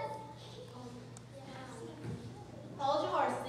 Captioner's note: general murmurs of agreement